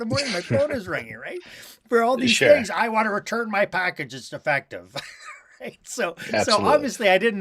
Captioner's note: laughter